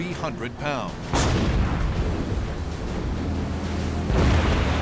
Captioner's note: explosions